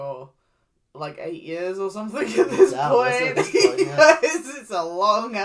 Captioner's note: nervous Laugh